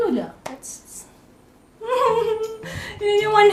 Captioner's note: secretly impressed laughter